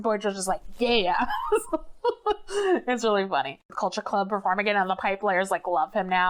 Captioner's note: laughs